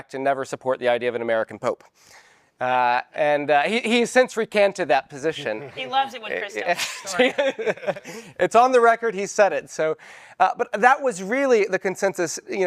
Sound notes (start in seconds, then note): 6.6 laughs